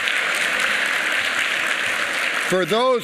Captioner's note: applause